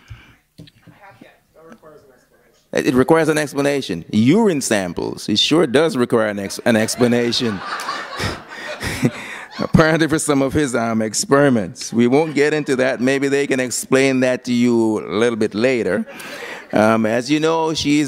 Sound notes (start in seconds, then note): 6.4 laughter